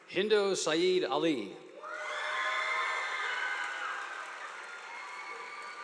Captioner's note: crowd cheering